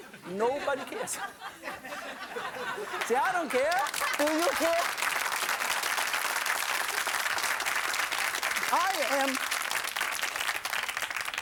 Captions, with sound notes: Nobody cares! (audience laughing) See, I don't care! Do you care? (audience laughing and clapping)